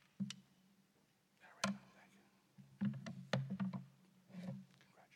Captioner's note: whispering